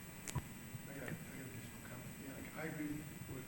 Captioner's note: person speaking off mic